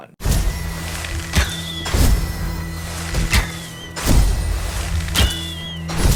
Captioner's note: arrows whooshing; gentle serene music